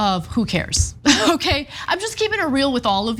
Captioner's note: laugh